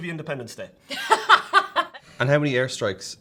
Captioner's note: laughs